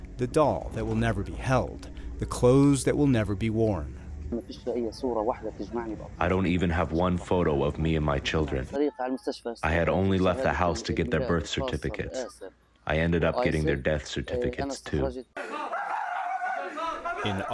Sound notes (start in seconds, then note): 6.5 through translator